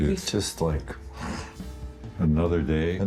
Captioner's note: Harrison scoffing